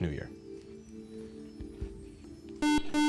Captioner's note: beep